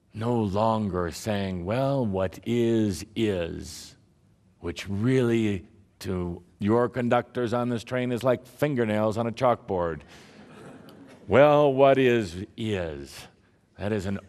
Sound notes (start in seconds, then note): 10.3 laughter